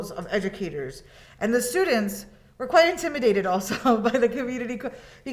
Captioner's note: chuckles